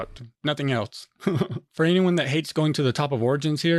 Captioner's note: laughs